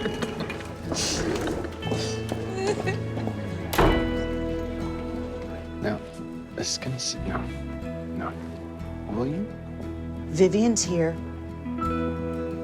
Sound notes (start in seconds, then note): 0.9 laughing; 3.6 door slams